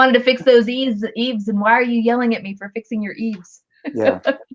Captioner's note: laughter